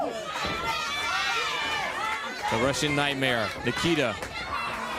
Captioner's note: crowd chatter